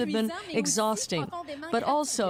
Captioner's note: speaking French